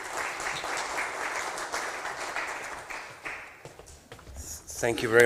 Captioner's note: applause